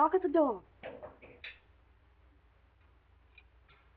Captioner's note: knocking in door